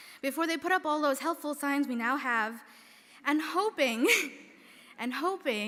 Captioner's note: chuckles